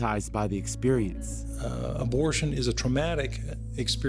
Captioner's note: soundbite of archived recording